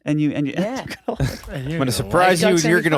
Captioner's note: laughing